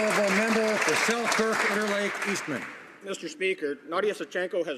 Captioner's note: some Applause